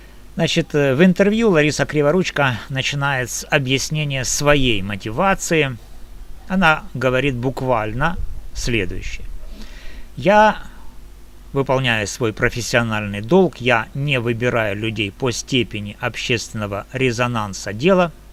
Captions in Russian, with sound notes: Значит, в интервью Лариса Криворучка начинает с объяснения своей мотивации. Она говорит буквально следующее. [фыркает] Я, выполняю свой профессиональный долг. Я не выбираю людей по степени общественного резонанса дела.